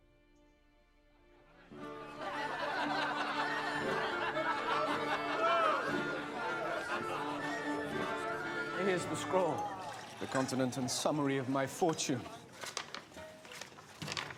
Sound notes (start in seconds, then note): 3.5 laughter